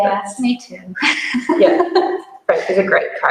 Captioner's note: laughs